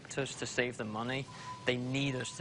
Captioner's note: beep beep beep, fans going